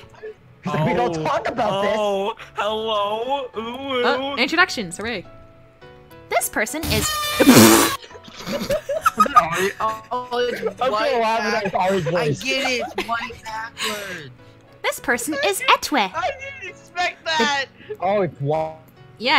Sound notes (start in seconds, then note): 6.9 aaaaaaaaaa-!